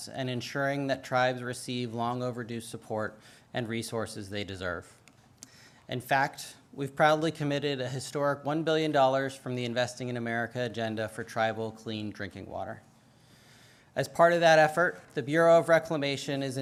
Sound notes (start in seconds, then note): none